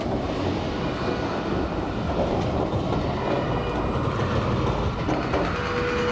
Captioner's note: tram clattering; horns blaring